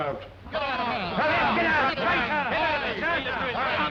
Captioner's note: men yelling